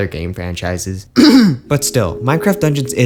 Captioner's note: totally real coughing